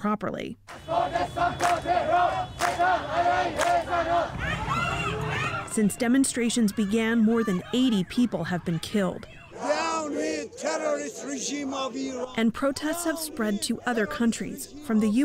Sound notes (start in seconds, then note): 6.8 chanting